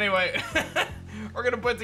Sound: laughs

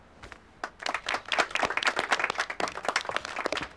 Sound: applauding

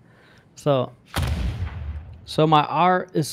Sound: booming sound

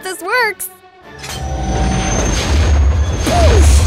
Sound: machine whirs to life

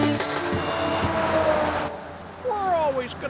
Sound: highway sounds

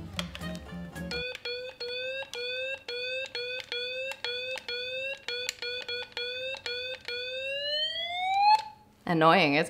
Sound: sound of megaphone siren being repeatedly pressed

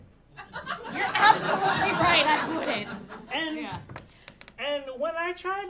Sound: audience laughing

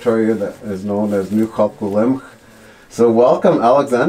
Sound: speaking Native language

